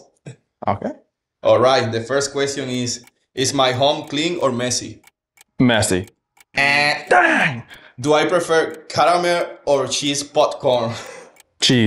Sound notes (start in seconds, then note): 6.5 imitates buzzer